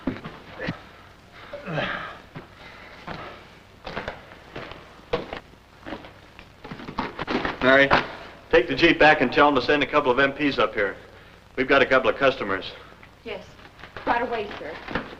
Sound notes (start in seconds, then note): 2.3 foosteps